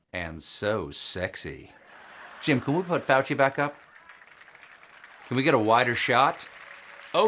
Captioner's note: laughter